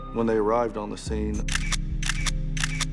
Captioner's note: camera shutter snapping